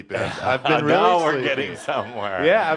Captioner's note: some laughter